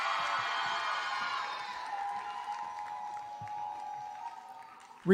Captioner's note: applause